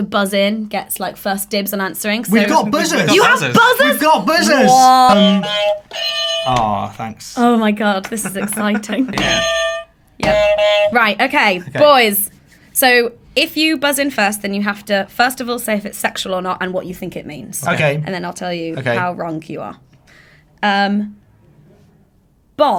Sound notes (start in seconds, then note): 4.3 buzzers sounding, honking; 10.2 buzzer honking